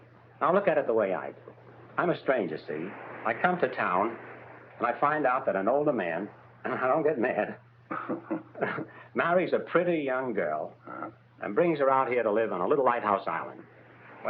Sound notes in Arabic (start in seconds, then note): 7.9 هانك يضحك